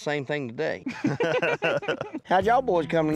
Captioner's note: laughter